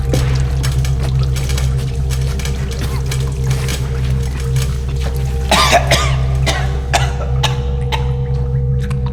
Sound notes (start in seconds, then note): 5.4 coughing and gasping for air